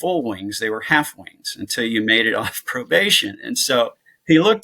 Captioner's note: chuckles